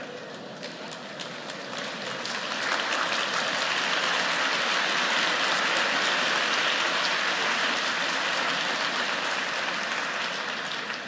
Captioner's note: applause